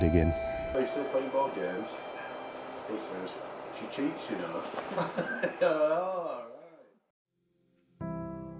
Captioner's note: chuckles